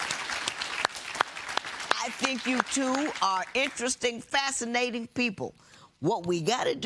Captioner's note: applause